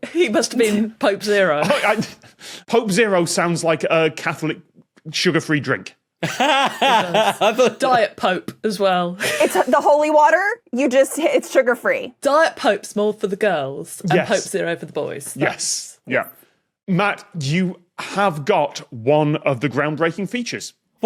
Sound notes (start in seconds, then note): 1.6 cracks up; 6.2 laughs